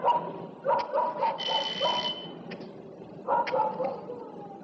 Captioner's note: doorbell rings